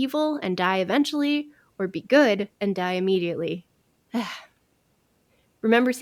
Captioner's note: sigh